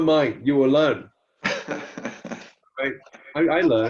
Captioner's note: chuckles